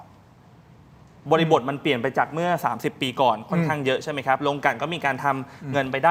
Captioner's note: clears throat